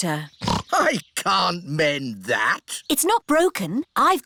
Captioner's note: snorts